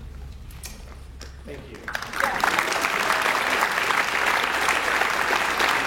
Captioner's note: audience applauds